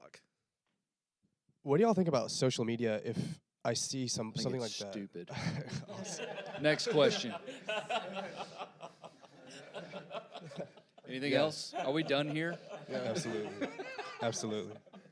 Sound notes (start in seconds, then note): 5.4 panelists laughing; 7.5 panelists laughing; 14.1 panelists laughing